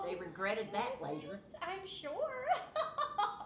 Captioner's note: laughing